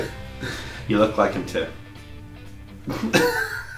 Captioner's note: laughing